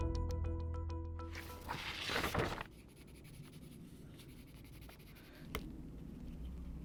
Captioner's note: paper rustles, pencil scratches